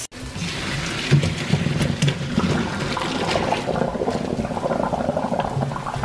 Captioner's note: water splashing